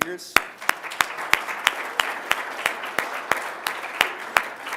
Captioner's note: applause